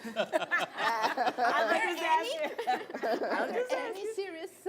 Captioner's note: laughter